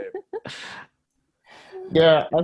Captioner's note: Desi laughs